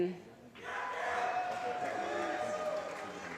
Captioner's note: applause